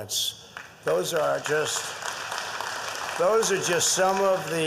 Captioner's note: applause